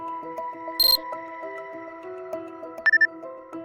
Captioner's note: beep